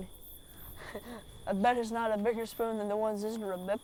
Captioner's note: chuckles